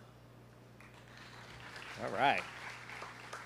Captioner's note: students clapping